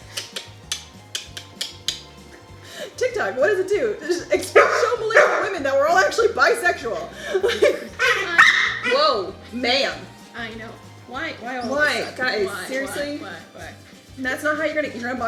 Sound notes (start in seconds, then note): 0.1 tongue clicking; 8.0 dog barking